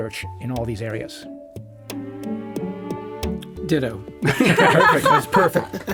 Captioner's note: all laugh